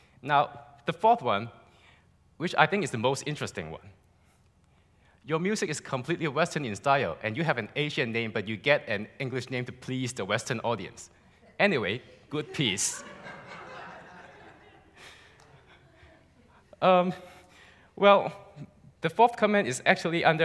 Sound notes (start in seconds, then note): 12.0 laughs